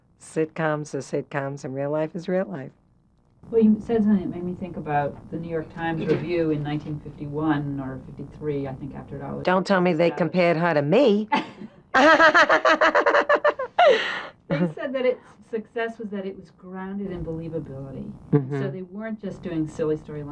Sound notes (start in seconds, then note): 11.9 laughs